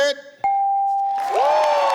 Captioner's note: computer beeps; audience applauding